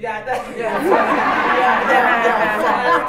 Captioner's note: laughter